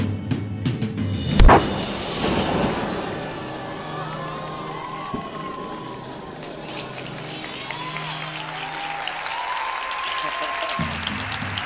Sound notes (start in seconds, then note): 4.0 audience cheering; 4.0 fire whooshing